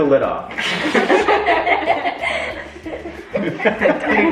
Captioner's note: all laugh